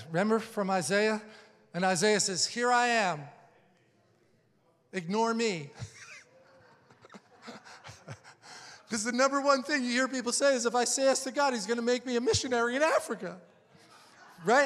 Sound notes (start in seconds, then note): 5.7 laughing